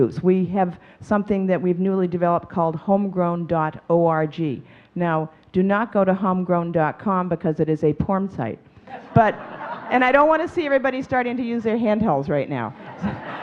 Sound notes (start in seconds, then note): 8.9 audience chuckling; 12.7 audience laughing